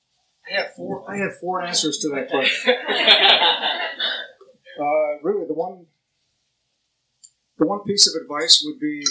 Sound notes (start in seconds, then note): 2.3 laughter